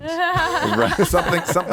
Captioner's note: laughing